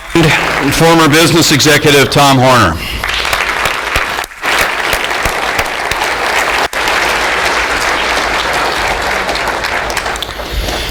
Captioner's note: applause